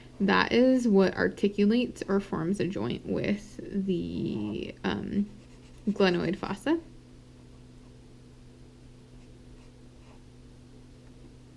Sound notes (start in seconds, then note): 7.3 pen scratching